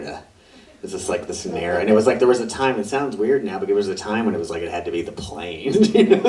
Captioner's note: audience laughs; laughs